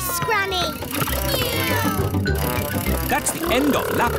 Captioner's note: kids imitating vehicle sounds